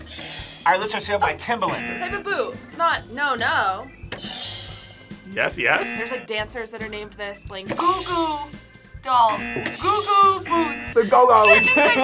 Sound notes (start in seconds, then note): 1.6 buzzer rings; 1.6 buzzer; 5.7 buzzer rings; 5.7 buzzer; 9.2 buzzer rings; 9.3 buzzer; 9.4 laughs